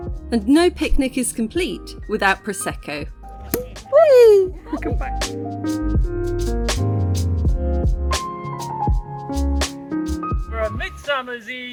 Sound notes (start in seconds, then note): 3.5 pop; 5.8 chill music